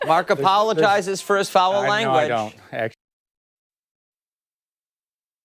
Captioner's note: laughter